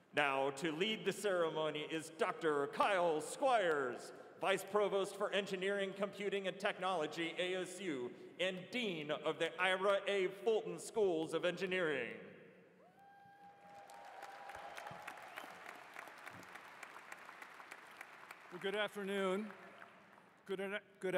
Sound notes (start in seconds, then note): 13.3 applause